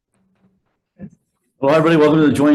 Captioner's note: gavel banging